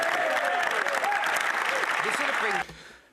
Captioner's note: speaking French